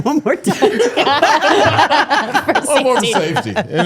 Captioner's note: all laughing